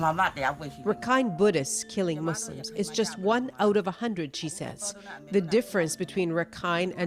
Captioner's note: speaking foreign language